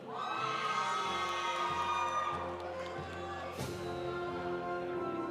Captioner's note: audience cheering; audience applauding